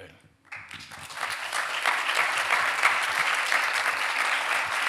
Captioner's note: audience applauding